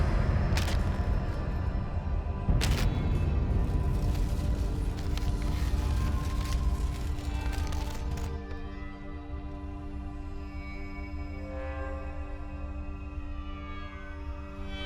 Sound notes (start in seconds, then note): 0.5 paper rips; 3.6 paper crumpling; 12.3 dramatic music continues